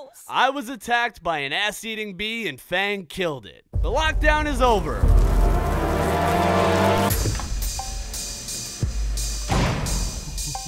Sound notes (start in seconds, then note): 5.0 ominous buzzing; 7.1 chill hip hop music